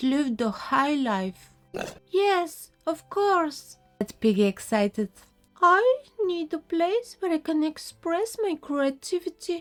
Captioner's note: pig sound